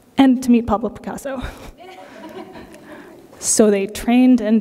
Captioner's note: laughter